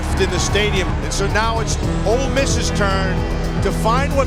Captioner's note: voiceover